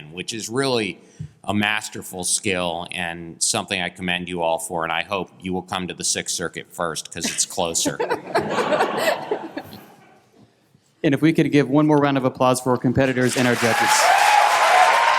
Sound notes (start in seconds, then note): 7.7 laughter; 13.0 applause